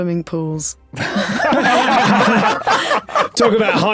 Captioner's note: group laughing uproariously